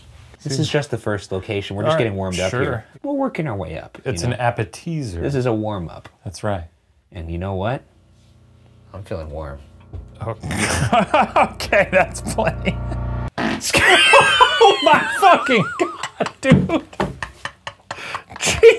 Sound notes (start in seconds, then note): 10.3 chuckling; 13.3 farts; 13.6 laughing; 17.1 chortling